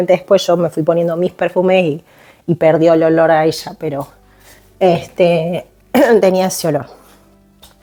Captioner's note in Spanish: carraspeo